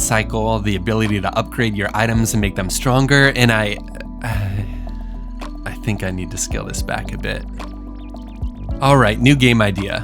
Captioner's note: sigh